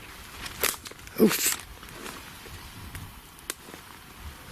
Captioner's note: branch cracking